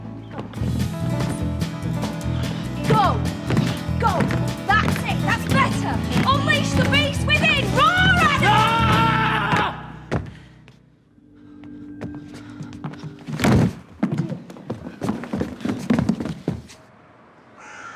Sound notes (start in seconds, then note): 8.4 Rhydian roars